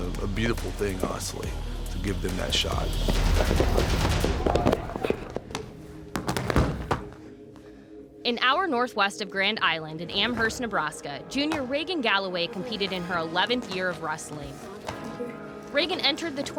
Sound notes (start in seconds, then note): 6.0 bodies slamming